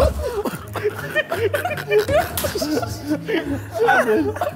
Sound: Sidemen laughing

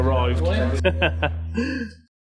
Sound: laughing

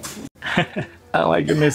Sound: chuckles

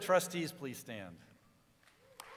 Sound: applause

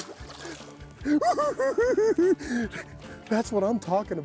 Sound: giggles

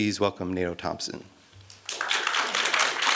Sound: applause

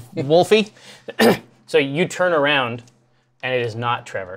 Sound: clears throat

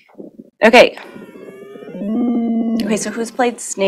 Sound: game sound

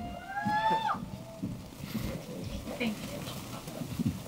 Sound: cheering

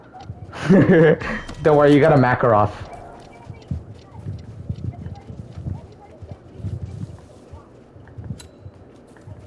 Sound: idiotic laughing

